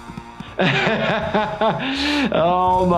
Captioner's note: laughing